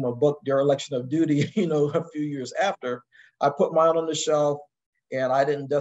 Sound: laugh

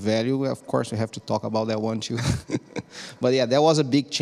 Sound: chuckling

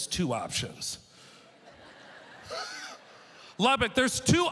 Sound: audience laughter

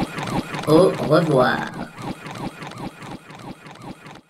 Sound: robotic voice

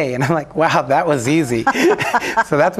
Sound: both laughing

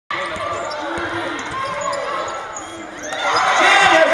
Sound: crowd Cheers

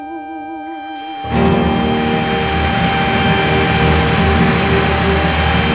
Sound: audience applauding

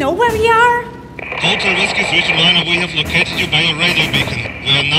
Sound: crackle

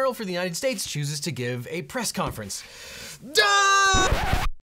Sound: yells

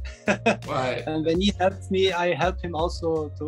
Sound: laughing

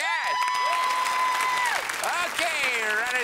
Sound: cheers and applause

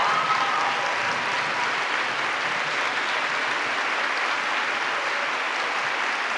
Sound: applause

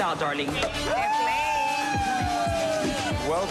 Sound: cheering

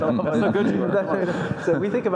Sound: panelists laugh

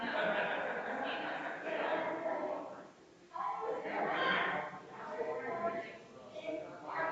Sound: people chattering distantly continues

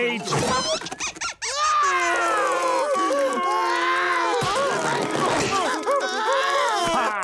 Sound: crying

